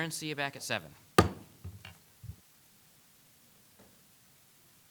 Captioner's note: gavel bangs